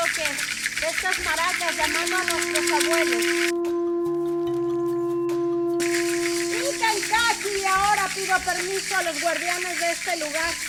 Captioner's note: speaking in Spanish